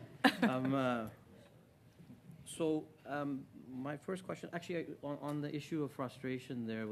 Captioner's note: laughter